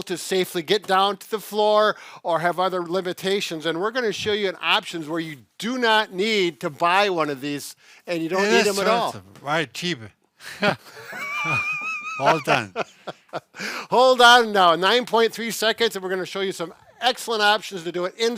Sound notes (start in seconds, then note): 10.5 laughing